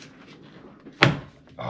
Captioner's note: snap